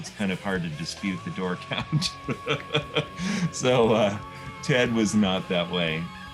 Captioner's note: laughing